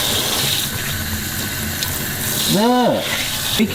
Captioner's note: water running